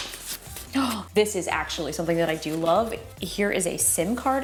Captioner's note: gasps